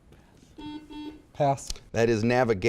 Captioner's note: buzzer beeping